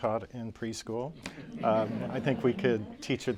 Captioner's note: laughter